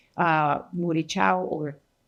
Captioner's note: speaking in foreign language